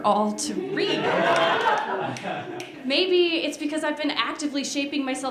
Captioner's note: laughter